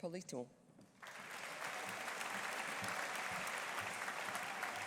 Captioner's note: audience applauding